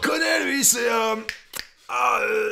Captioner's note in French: Claquements de doigts